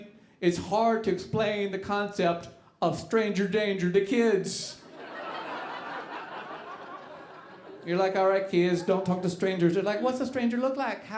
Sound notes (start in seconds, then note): 4.8 audience laughing